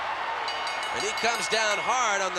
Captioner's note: bell ringing